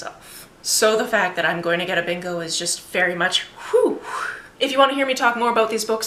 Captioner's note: phew